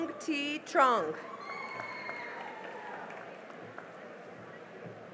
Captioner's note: cheering and applause